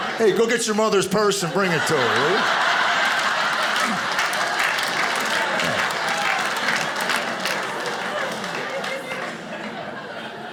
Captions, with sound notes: Hey, go get your mother's purse and bring it to her, will you? (audience applauding)